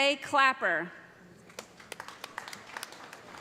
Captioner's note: applause